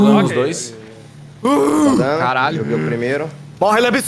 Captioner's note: groans